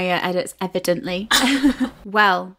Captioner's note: laughing